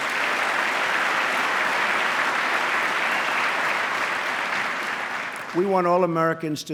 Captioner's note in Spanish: aplauso